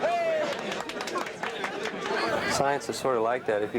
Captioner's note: group cheering